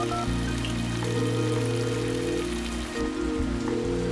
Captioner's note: dials telephone; ringing